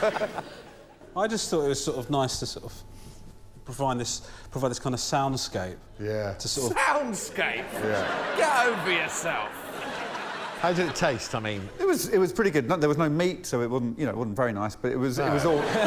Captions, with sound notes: creating the right atmosphere in a lovely restaurant is. And what I want before I eat is to be just incredibly irritated. [laughter] I just thought it was sort of nice to sort of... provide this kind of sound escape. To sort of...